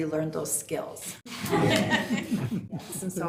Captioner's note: people laughing